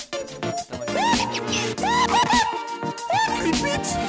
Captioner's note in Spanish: grito